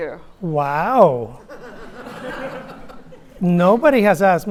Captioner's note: audience laughing